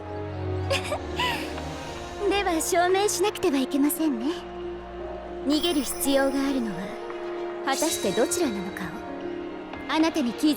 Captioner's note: laughs